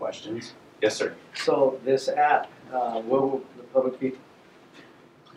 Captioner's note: voiceover